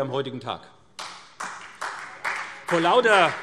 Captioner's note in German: Beifall SPD